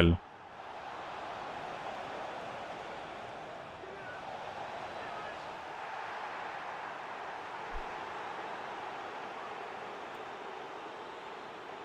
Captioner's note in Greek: χειροκρότημα